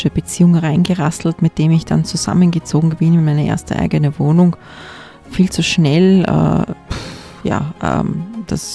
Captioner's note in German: schnauben